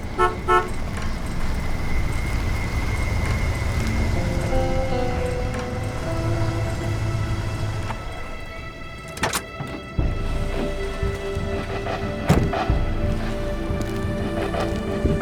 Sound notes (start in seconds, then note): 0.1 horn honks; 9.3 door clicking; 12.1 door thudding